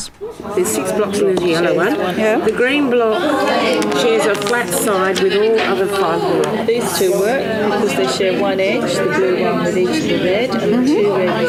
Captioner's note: audience chatter